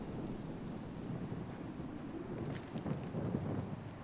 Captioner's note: wind blowing